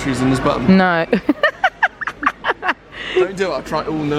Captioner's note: giggles